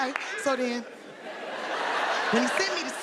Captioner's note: audience laughing